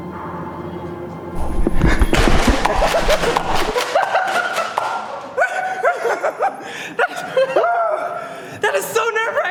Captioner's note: laughs and runs away